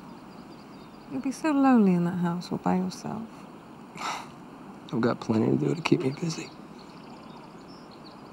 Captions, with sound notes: - You'll be so lonely in that house all by yourself. - (chuckles) I've got plenty to do to keep me busy.